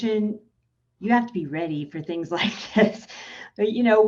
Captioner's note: chuckles